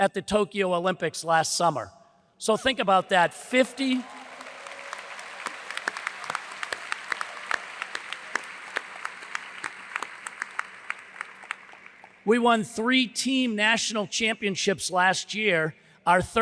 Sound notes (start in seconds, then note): 4.4 audience applauds; 5.8 hands clapping